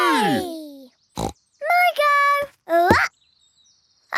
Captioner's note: snorts